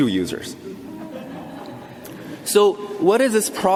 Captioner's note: audience laughter